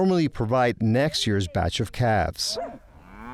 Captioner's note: dog barks; cow mows